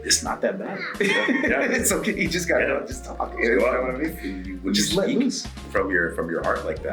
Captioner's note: laugh